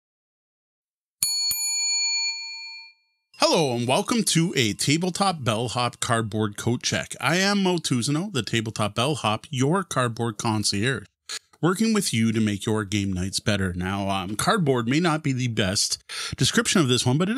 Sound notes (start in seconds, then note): 1.2 bell ringing